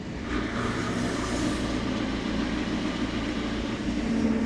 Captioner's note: telehandler whirring